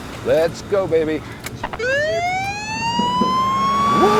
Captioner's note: engine revs; siren wails